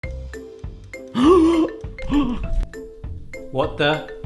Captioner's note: light melodic music; gasping